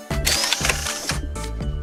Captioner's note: zoooom